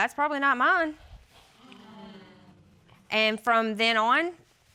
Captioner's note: audience exclaiming